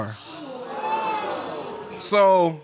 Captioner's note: audience exclaiming